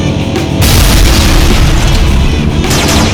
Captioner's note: explosion booms; gun blasting